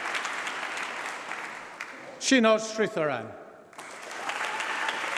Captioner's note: applause